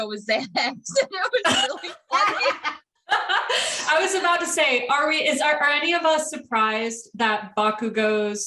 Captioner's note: laughter